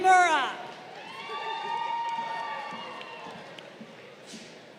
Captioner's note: crowd cheering